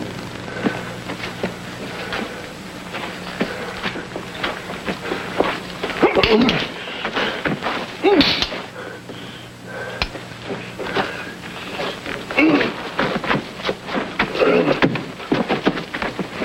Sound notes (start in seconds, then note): 4.5 knife clanking; 5.9 Gypsy grunting; 10.8 Gypsy panting; 12.6 Gypsy grunting